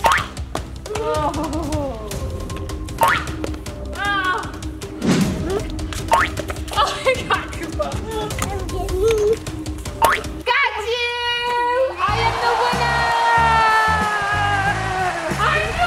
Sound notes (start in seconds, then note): 0.1 bouncing; 3.1 bouncing; 10.0 bouncing; 12.0 audience applause